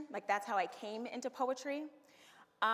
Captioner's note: none